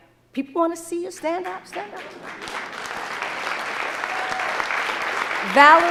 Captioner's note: audience applauding